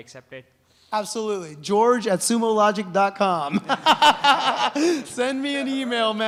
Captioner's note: laughs